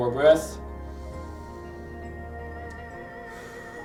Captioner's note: inhales; exhales